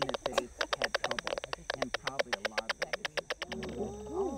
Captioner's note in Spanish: murciélagos piando; sonido digital